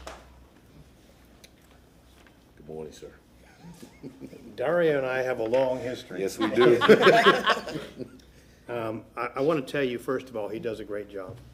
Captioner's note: applause